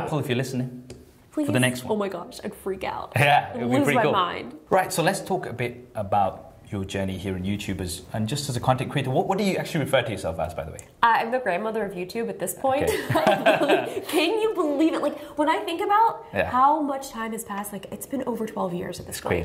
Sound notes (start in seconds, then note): 12.8 laughter